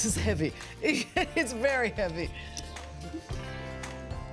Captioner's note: laughs